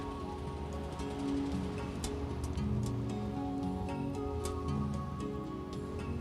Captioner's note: car engines revving; gentle upbeat music